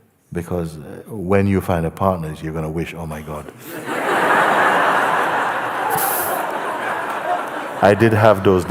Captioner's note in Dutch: gelach